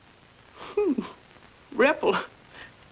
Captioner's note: chuckling